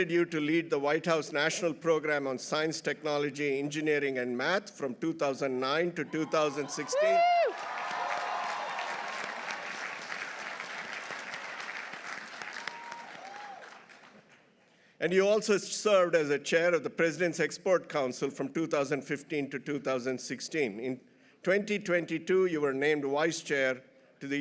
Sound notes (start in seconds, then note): 6.1 audience cheering; 7.4 audience applauding